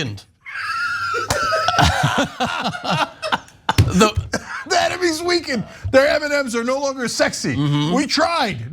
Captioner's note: laugh